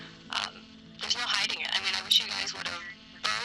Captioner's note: static buzzing